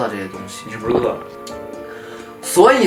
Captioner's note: swallowing